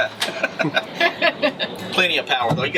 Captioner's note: laughter